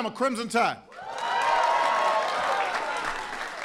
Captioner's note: applause